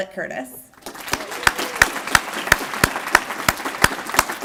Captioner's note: applause